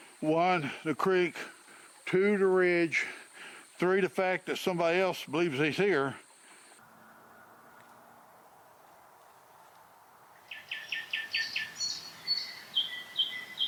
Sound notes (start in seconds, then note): 6.9 birds squawking; 8.4 creek flowing; 10.4 birds chirping